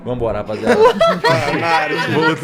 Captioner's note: laughter